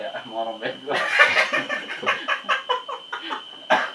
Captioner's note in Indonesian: ketawa monyet